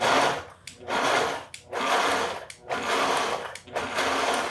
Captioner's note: blender whirring